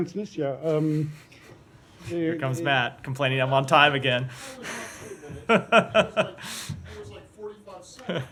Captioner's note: laughter